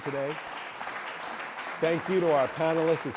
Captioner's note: audience applauds